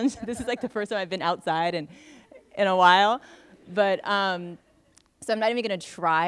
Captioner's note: laughter